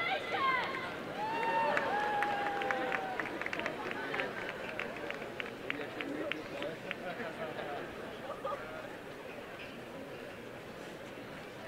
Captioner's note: applause and cheering